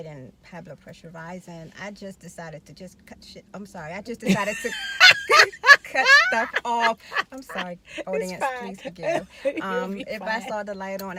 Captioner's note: laughing